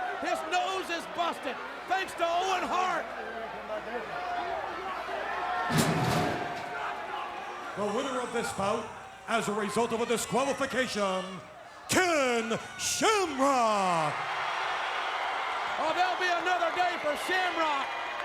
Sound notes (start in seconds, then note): 14.1 audience cheering